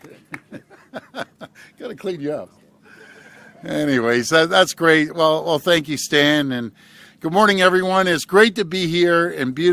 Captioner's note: laughs; applause